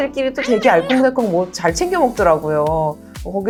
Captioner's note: hehehe